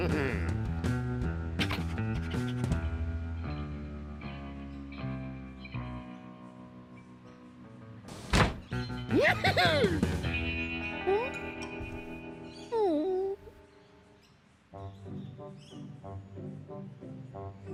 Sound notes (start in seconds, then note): 0.1 chuckles; 9.1 giggles; 12.7 whimpers